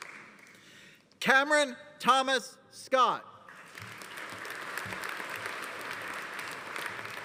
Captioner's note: audience applauding